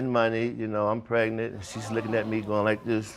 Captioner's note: audience gasps